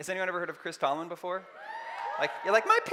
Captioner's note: cheering